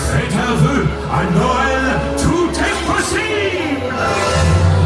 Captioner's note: Santa continues in French